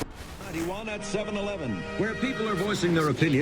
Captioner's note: radio dial shifts